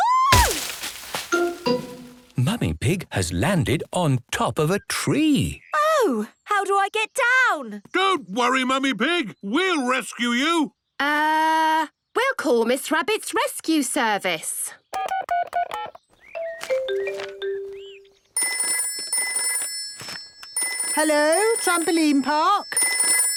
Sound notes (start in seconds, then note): 16.4 phone beeping; 18.3 phone ringing